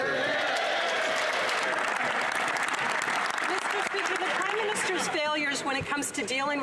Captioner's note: speaking French